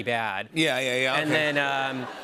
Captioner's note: laughter